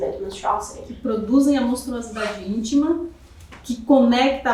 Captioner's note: speaking portuguese